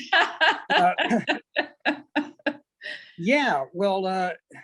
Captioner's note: laughs